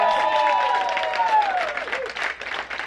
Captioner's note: applause